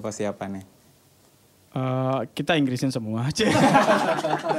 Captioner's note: laughs